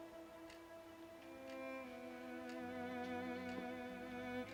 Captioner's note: mysterious music; clock ticking